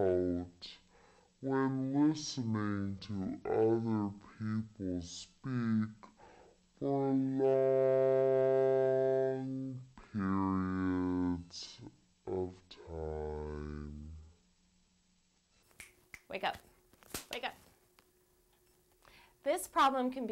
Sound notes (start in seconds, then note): 12.1 finger snap; 15.7 clap